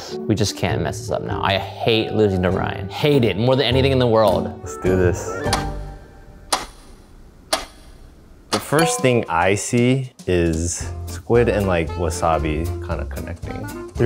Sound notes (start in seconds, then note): 5.8 timer ticking